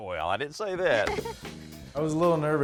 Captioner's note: chuckles